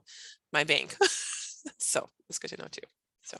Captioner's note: laughing